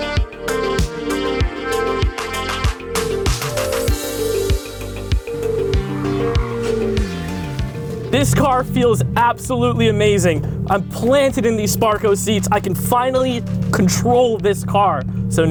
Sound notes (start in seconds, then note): 6.7 tires squeal